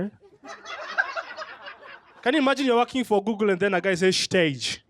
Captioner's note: laughter